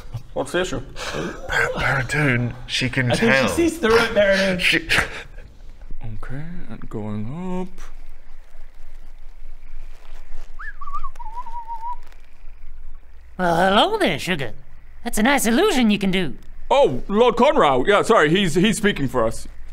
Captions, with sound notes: What's the issue? Bara...Baradun...she can tell I think she sees through it Baradun She...*cracks up* Okay...going up... *innocent whistling* Well hello there sugar that's a nice illusion you can do Oh Lord Conrau yeah sorry he's speaking for us